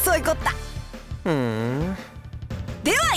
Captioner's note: bemused hum